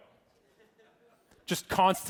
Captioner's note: audience laughing